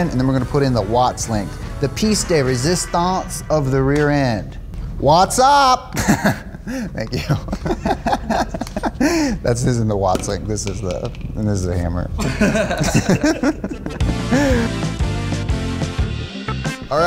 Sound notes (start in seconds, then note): 7.2 laughs; 12.2 all laughing; 14.0 mellow music